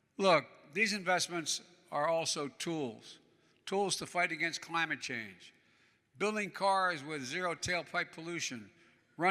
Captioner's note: none